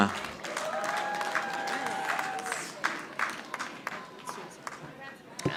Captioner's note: audience applauding